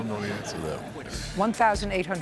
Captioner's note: laughter